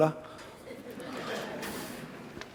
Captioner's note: laughter